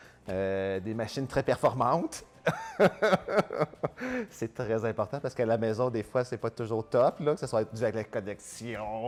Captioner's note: laughing